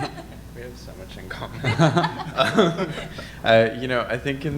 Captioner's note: laughs